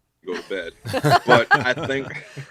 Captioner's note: laughter